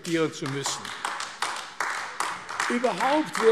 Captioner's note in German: Beifall AfD